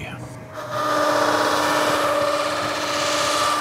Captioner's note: loud whirring